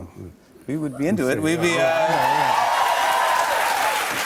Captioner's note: cheers and applause